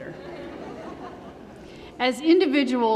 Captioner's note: laughter